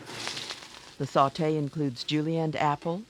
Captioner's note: voiceover